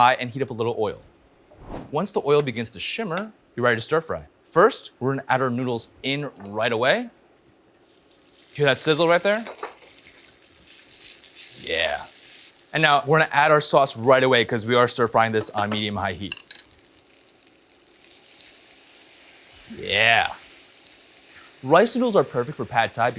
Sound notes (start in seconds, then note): 9.6 sizzling sound